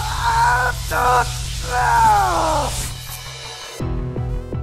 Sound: pained grunt and, you guessed it, more screaming; intense music

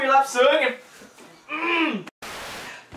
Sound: manly Grunt

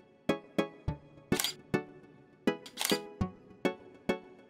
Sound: camera shutter clicks

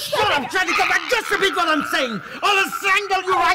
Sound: Sharik's softly gurgling

